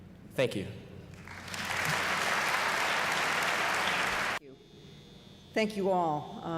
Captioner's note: applause